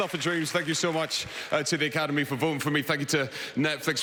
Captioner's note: applause